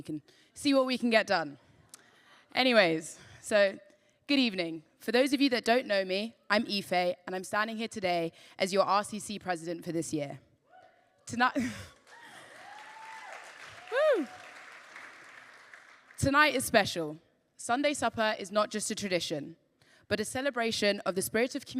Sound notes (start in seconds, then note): 14.1 laughs; 15.1 applause